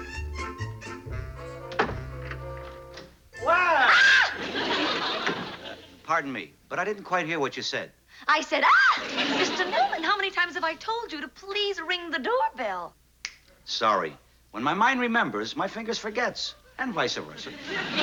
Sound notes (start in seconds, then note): 3.4 screams; 8.6 screams; 13.2 snaps fingers